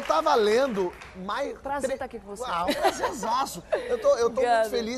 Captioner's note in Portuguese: aplausos